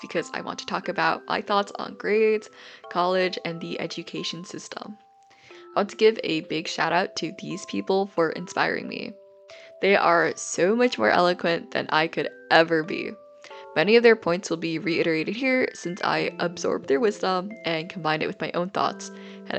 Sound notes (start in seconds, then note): none